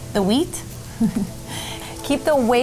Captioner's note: laughing